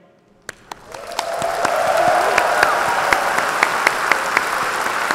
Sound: audience applauding

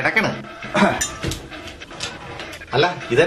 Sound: clears throat

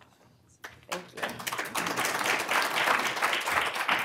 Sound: applause

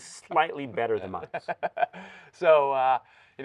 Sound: laughing

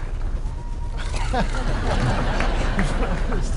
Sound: laughter

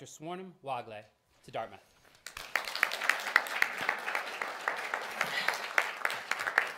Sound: applause

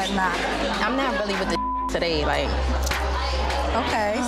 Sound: beep

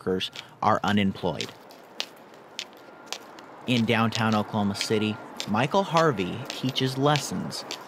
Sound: walking with cane

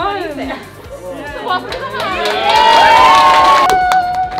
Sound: crowd applauds

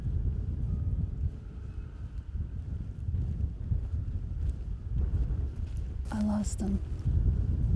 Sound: wind gusting

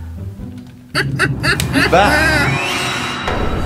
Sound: laughing

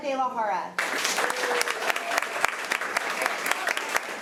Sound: applause

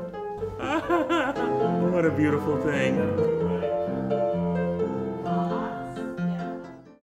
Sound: laughs

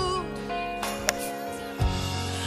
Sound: golfball wacked

